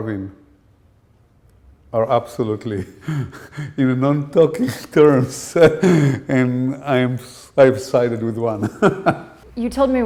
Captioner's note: chuckle